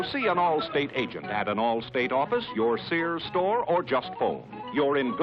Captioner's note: none